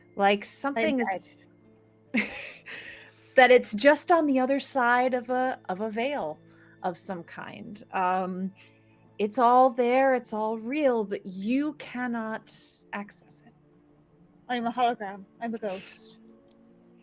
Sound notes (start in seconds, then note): 2.2 laughing